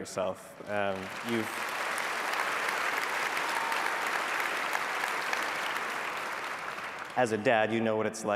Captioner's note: applause